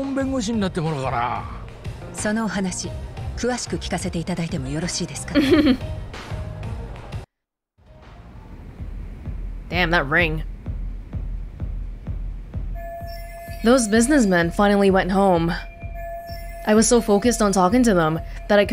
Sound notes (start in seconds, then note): 5.3 chuckles